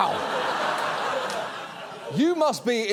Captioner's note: audience laughs